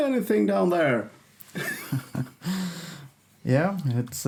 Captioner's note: laughing